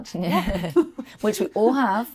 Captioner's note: laughs